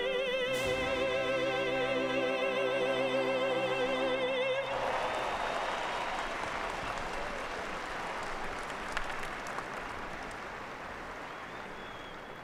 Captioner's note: applause